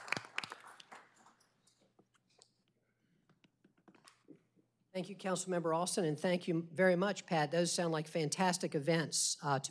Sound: applause

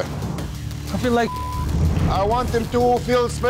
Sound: beep

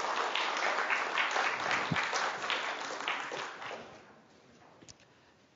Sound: public applauding

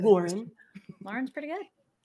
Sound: chuckles

